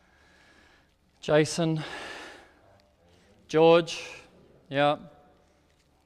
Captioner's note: sighs